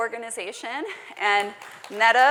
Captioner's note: applause